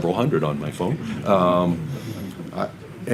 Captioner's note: audience laughs